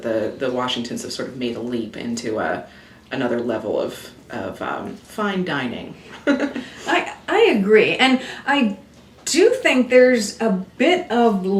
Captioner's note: chuckles